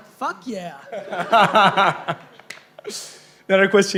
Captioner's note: laughing